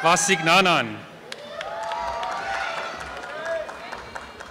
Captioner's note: applause and cheering